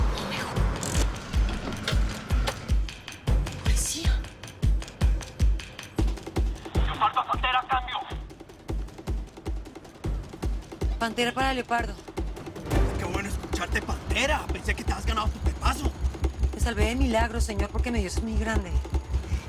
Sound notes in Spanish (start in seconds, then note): 6.5 Voz en la radio